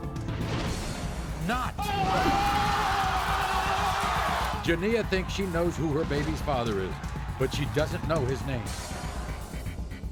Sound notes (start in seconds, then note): 1.8 audience cheering; 2.0 yelling